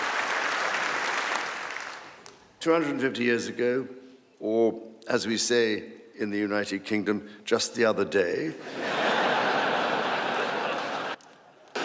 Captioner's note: applause